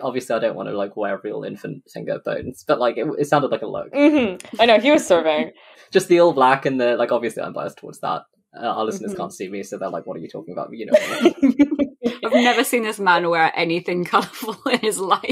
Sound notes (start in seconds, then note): 12.2 laughs; 12.4 laughing